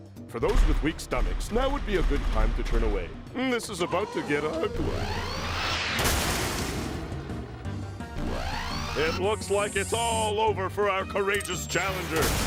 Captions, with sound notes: FOR THOSE WITH WEAK STOMACHS, NOW WOULD BE A GOOD TIME TO TURN AWAY. THIS IS ABOUT TO GET UGLY. (explosion) (mechanical whirring) IT LOOKS LIKE IT'S ALL OVER FOR OUR COURAGEOUS CHALLENGER.